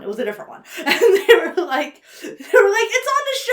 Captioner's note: laughs